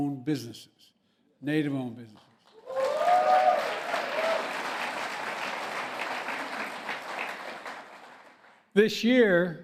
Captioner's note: applause